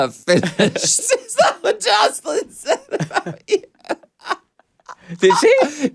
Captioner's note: laughs